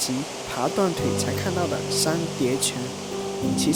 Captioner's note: waterfall